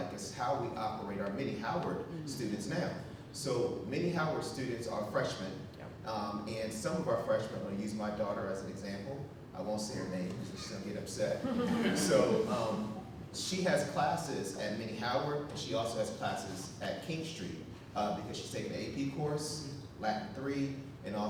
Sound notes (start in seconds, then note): 11.4 audience laughing